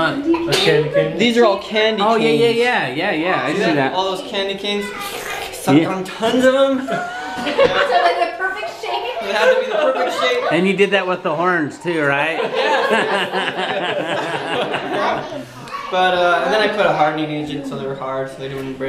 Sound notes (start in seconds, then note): 14.2 laughing